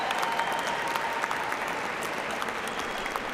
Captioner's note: cheers and applause